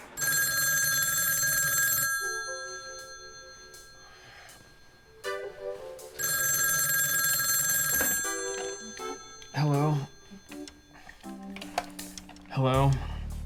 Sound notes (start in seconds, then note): 0.0 phone ringing; 5.1 cheerful music; 6.1 phone ringing continues